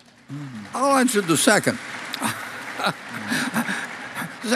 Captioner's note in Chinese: Applause; 掌聲